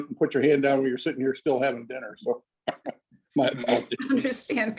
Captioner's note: laughs